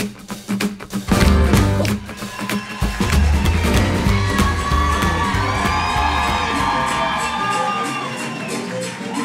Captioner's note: applause